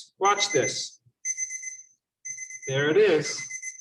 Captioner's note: alarm chiming